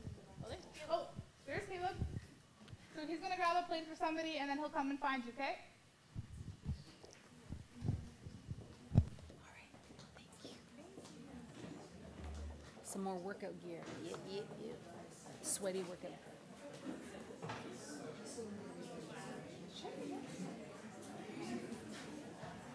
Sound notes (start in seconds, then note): 10.8 background chatter